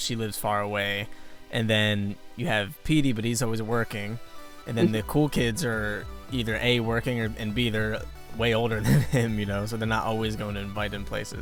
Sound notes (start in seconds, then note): 8.8 chuckles